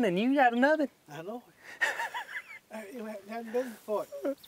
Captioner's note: laughing